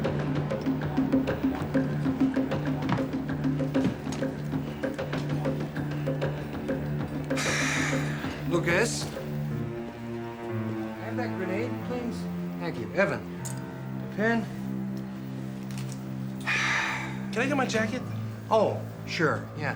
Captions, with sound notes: (SIGHING) Lucas? Can I have that grenade, please? Thank you. Evan-- the pin. Can I get my jacket? Oh, sure, yeah.